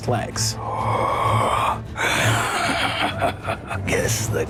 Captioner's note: inhales